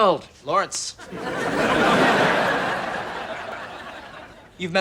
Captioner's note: audience laughs